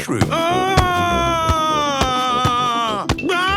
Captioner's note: shouting